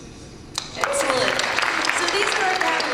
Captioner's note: applause and cheers